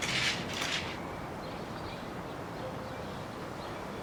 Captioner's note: birds chirping